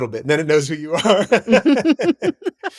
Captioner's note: laughter